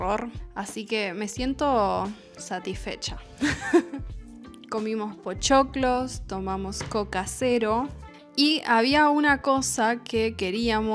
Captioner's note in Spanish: risas